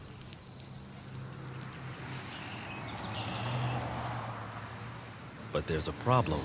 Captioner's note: passing vehicles